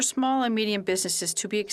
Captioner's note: speaking French